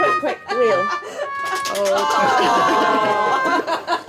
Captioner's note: sad trombone